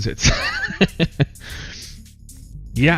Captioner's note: laughs